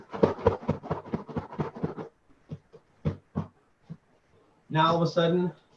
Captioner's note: punching pillow